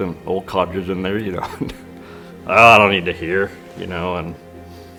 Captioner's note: laughs